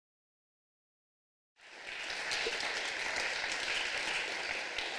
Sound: applause

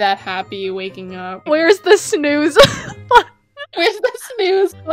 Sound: laughs

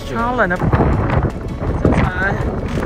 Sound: super windy

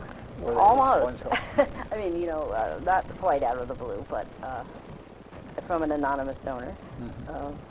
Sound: laughs

